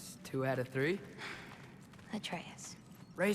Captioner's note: sigh